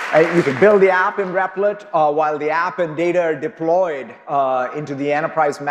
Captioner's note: applause